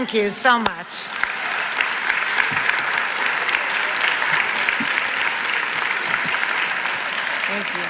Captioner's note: audience applauds